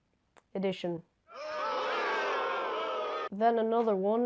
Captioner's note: booing